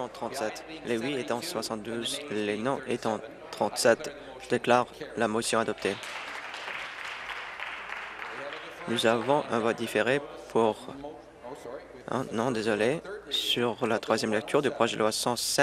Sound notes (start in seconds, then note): 9.2 applause